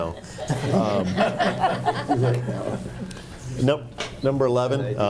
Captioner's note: group laughing